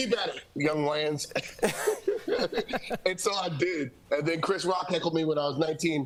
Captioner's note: laughter